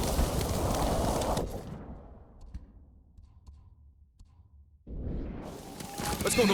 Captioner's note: thunder rumbling